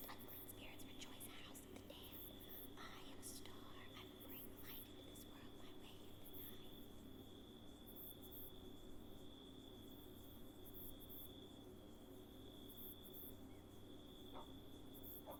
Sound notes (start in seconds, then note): 0.2 whispers; 6.5 crickets chirp